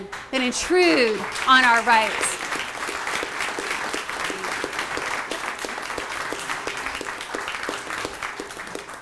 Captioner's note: applause